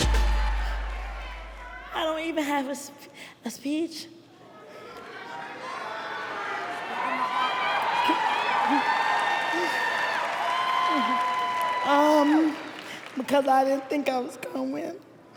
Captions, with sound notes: I don't even have a speech. [CHEERING] Because I didn't think I was going to win.